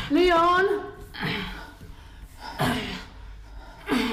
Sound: Ava grunts

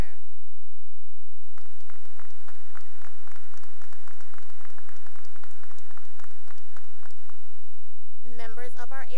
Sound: applause

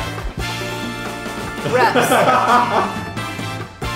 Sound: celebratory music; all laugh

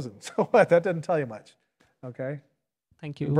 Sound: laughs

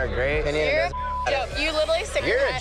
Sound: beep

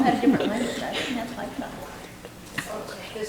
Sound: speaking quietly

